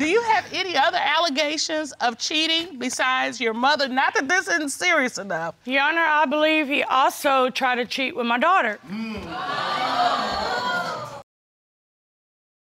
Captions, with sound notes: Do you have any other allegations of cheating besides your mother... Not that this isn't serious enough. Your Honor, I believe he also tried to cheat with my daughter. (AUDIENCE EXCLAIMING)